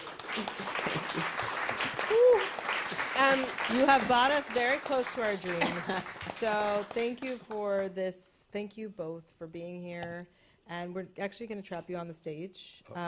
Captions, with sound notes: [applause] -Whoo. -Um, you have brought us very close to our dreams. [laughter] So thank you for this. Thank you both for being here. And we're actually gonna trap you on the stage,